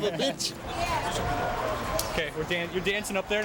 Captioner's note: audience chattering